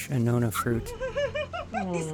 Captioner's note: laughter